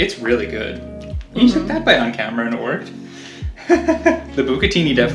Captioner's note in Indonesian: tertawa